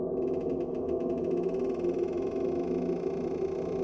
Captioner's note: door creaking